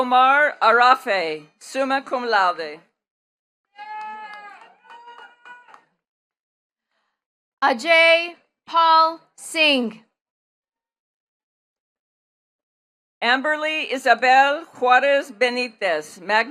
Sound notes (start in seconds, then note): 3.7 attendees cheering and clapping